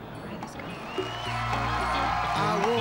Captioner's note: funky pop music; audience cheering